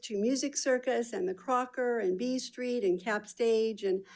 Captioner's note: none